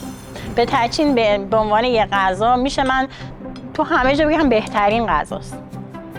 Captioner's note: woman speaking in foreign language